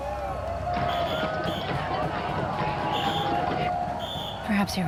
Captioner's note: crowd cheering